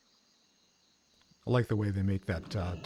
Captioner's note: rumbling